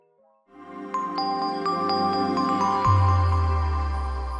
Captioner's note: logo whooshing